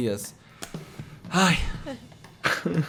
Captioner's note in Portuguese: suspira